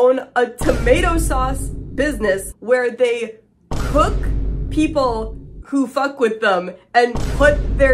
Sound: boom

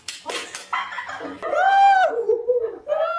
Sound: cheer

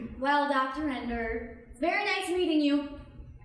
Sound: none

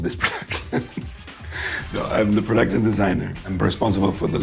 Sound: chuckles

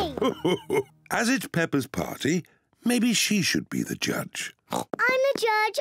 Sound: laughs; oinks

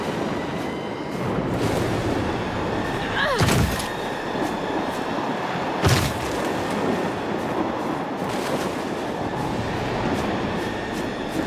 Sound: wind blowing

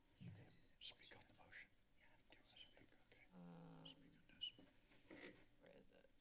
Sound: whispers

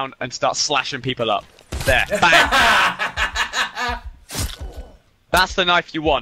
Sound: laughs maniacally

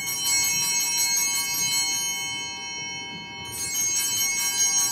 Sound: bell ringing

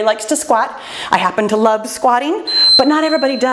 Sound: timer beeps

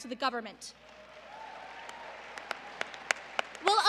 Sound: applause

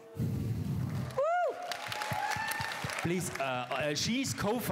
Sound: applause

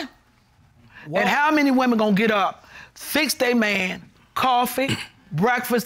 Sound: clears throat

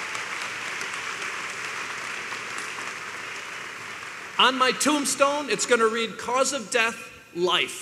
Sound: applause

